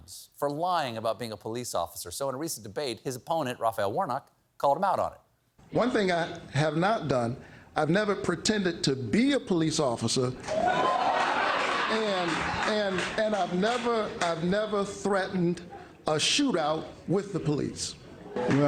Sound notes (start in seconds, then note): 10.4 cheers